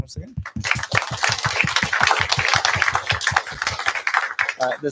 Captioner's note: applause